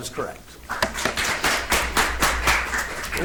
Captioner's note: audience applauds